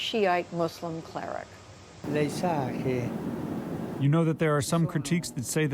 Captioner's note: through translator